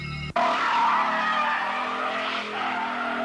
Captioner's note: brakes squealing